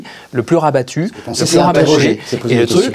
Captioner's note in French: brouhaha